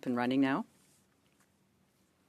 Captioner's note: speaking French